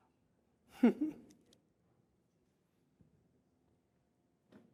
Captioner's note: laughs